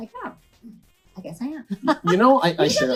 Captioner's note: laughs